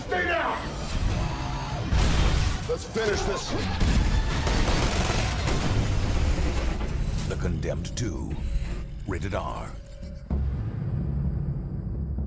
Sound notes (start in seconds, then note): 1.9 gunfire